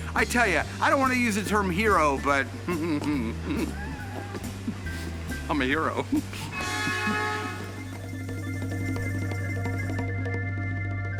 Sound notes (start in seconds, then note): 2.6 giggles; 6.4 horn honks